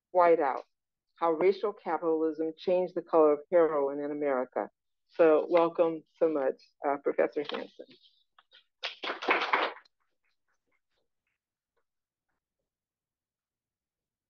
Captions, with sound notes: Whiteout-- How Racial Capitalism Changed the Color of Heroin in America. So welcome so much, Professor Hanson. [APPLAUSE]